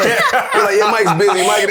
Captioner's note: laughter